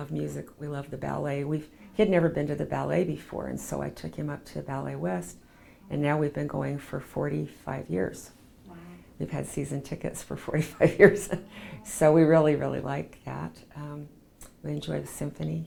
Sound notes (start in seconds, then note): 11.0 laughs